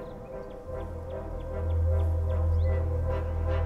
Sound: birds chirping

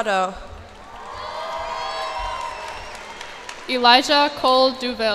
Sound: cheers and applause

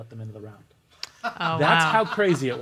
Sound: laughter

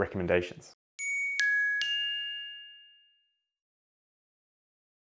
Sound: bells twinkle

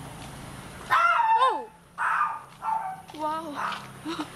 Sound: screaming😵

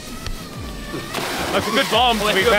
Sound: waters splashing

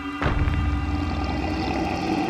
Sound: growling

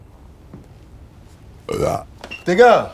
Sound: burp

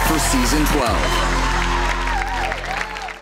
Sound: applause

